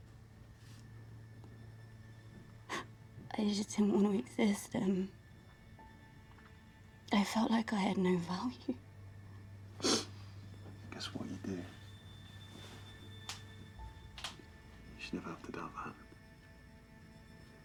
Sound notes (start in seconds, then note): 2.7 sobs; 9.7 sniffles